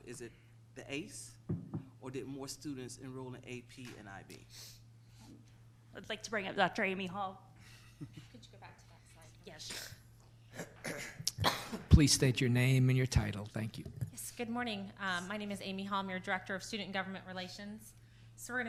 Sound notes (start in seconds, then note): 8.1 speaking off mic